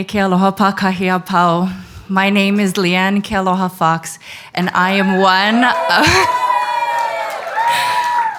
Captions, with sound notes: My name is Leanne Kealoha Fox. (audience cheers)